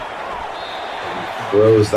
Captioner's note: crowd Noises